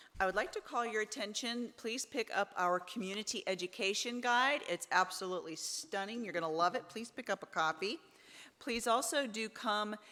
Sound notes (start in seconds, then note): none